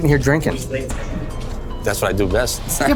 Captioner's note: laughs